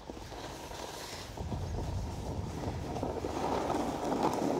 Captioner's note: snow crunching